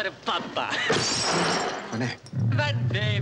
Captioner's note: glass shatters